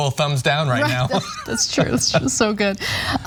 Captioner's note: laugh